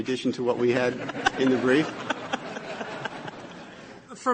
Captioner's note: laughter